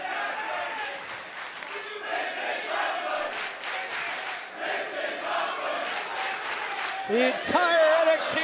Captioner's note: crowd cheering